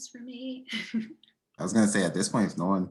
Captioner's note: giggling